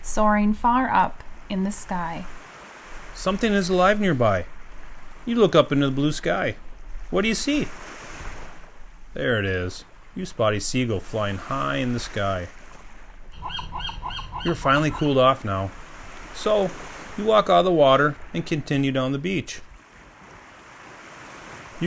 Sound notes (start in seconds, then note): 8.7 waves; 13.3 bird call; 21.1 waves